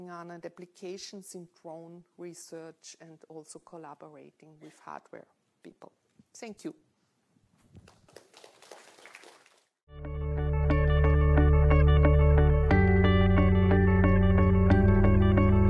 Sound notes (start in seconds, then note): 7.8 audience applauding; 9.9 soothing music